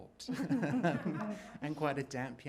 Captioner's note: everyone laughing